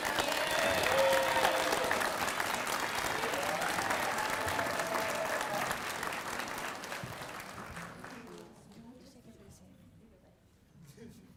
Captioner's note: applause